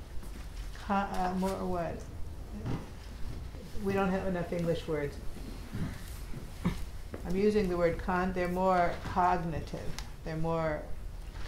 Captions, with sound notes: Con... more what? We don't have enough English words. (attendee lightly chuckles) I'm using the word con... They're more cognitive.